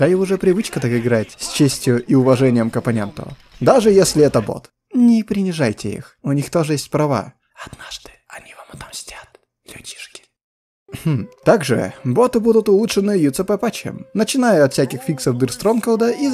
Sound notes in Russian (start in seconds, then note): 7.3 шепот